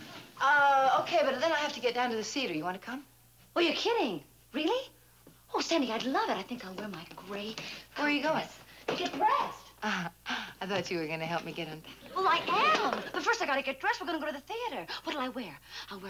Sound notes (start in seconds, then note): 10.0 chuckles